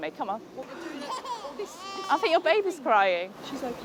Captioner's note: baby cries